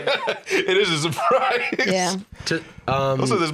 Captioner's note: laughing